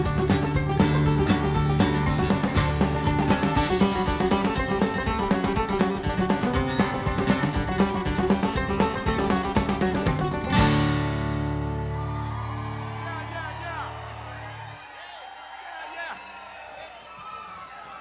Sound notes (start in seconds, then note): 11.4 audience cheers; 11.7 audience applauds